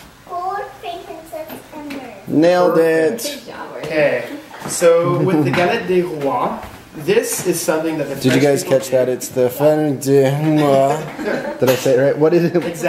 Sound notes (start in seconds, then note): 5.2 speaking in French